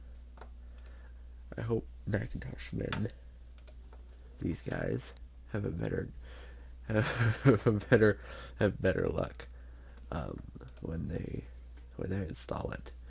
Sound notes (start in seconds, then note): 5.5 laugh